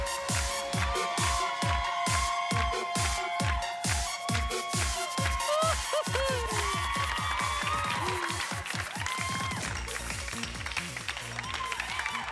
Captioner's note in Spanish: Palmadas al compás; Gritos y exclamaciones